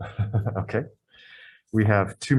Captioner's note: laughs